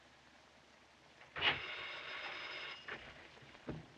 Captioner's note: doorbell Rings